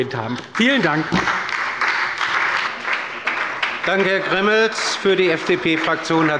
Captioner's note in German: Beifall bei der SPD